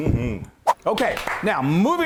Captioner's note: quick swipe; clapping